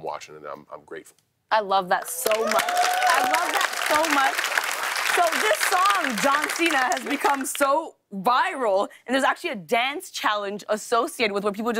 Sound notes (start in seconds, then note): 2.0 cheers and applause